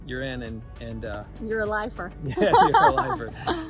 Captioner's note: laughs loudly